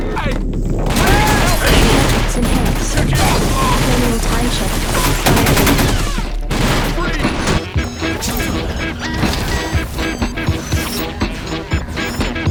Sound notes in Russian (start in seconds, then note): 0.8 звуки суматошной перестрелки